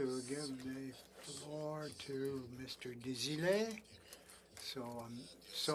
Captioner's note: speaking French